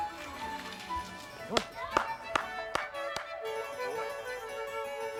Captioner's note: clapping